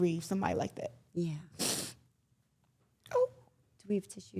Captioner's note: Claressa sniffles